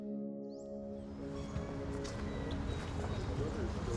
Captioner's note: soft music; birds chirping; soft chatter